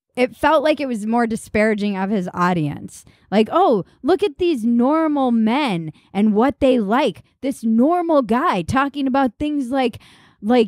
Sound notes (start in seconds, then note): none